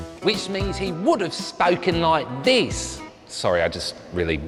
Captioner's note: english accent